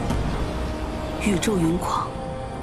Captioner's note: the storm and rain rage